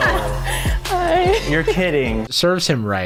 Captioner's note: laughing